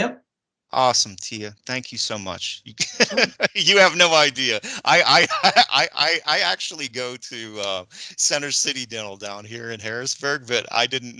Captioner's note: laugh